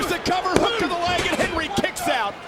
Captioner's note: referee pounding